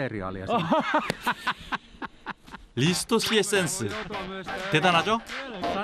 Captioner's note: laughter